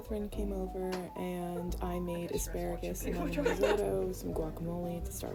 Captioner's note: girls laughing